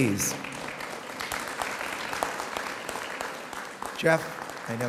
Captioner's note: audience applauds